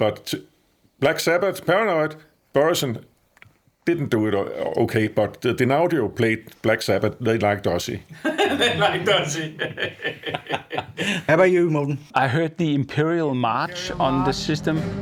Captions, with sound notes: but Black Sabbath, Paranoid—Børresen didn't do it okay, but the Dynaudio played Black Sabbath, they liked Ozzy! They liked Ozzy! (laughing) How about you, Morten? I heard the Imperial March on the system.